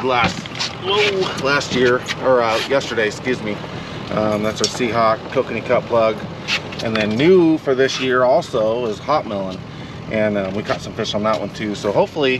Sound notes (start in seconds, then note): none